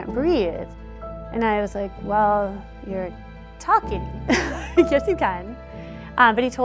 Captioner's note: laughter